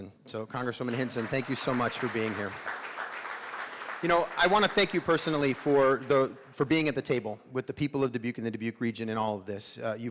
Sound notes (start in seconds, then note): 2.6 crowd clapping